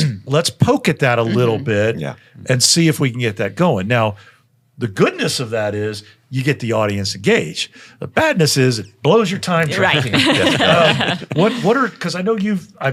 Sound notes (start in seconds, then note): 9.8 panel laughing